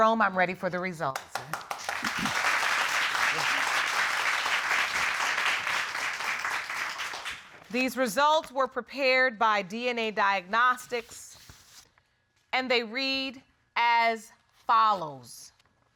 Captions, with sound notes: Jerome, I'm ready for the results. [audience applauding] These results were prepared by DNA Diagnostics and they read as follows.